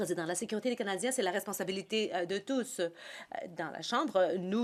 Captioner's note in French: voix de l'interprète